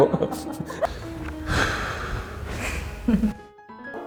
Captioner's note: sigh